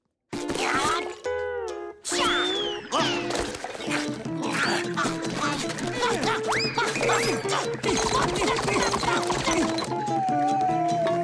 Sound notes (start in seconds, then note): 0.3 grunting; 3.8 grunting